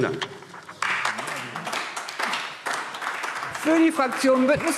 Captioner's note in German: Beifall